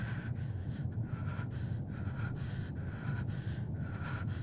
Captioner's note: Ura gasps